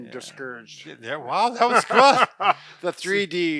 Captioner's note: laughing